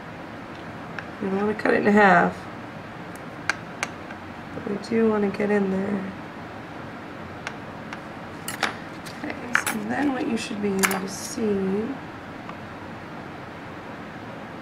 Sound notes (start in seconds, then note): 5.1 clipping; 6.2 tools clanking